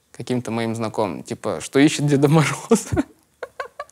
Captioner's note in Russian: смеется